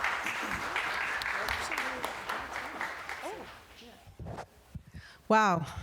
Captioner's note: applause